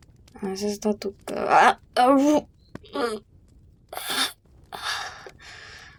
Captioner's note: groans in pain